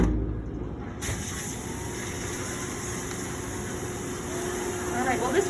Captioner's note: door shuts; washing machine starts